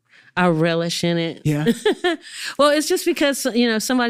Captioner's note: laughs